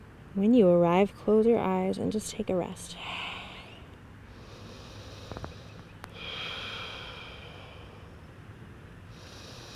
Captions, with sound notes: When you arrive, close your eyes and just take a rest. (inhales and exhales)